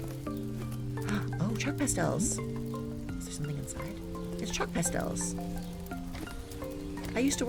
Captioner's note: gasps